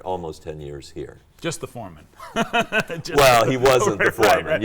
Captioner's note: laughs